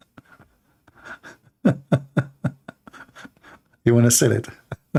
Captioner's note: Ketawa